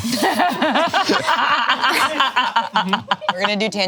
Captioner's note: laughing